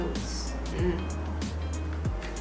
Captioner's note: knowing mmm sound